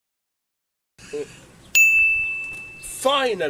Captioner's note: bing!